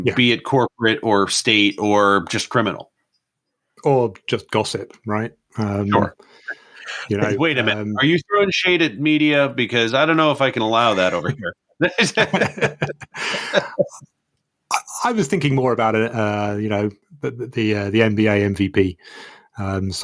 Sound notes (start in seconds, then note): 11.8 both laugh